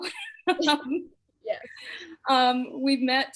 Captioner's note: both chuckle